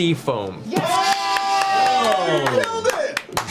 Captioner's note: all cheer